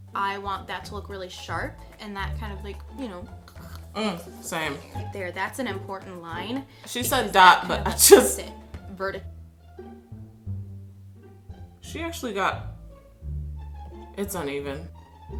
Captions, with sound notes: - I want that to look really sharp, and that kind of, (choking noise) - Same. - There, that's an important line. - She said dot but I just... She actually got... It's uneven.